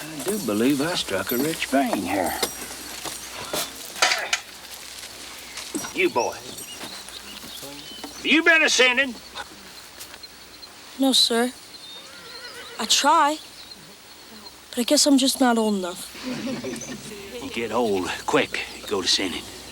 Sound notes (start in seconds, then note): 16.1 congregation chuckles